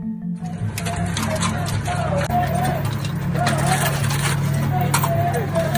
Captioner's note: protestors chanting and yelling